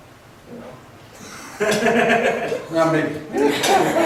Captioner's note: laughs